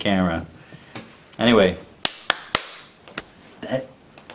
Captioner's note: four claps